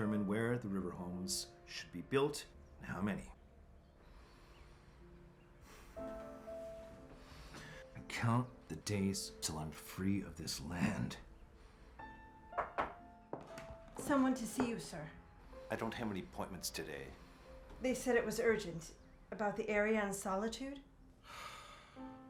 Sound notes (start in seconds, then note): 12.5 knocking